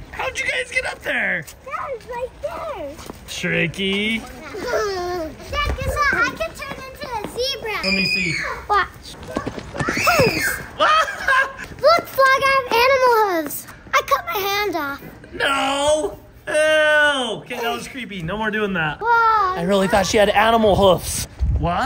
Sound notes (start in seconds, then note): 5.1 giggling; 10.6 laughing